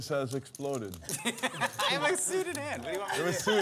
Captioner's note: laughter